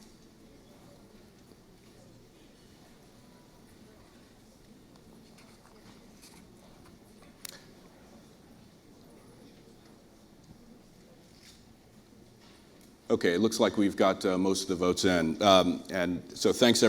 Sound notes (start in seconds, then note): 10.2 pause